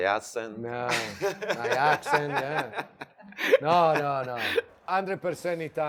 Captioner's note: laughs